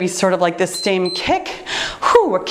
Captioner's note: timer beeps